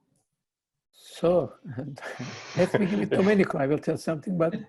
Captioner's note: chuckles